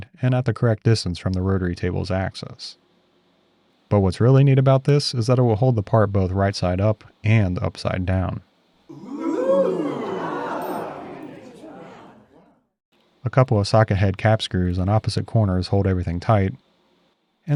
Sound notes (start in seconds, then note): 8.9 crowd gasping and vocalizing